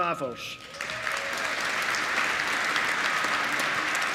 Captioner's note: applause